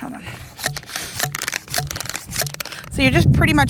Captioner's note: tool thumping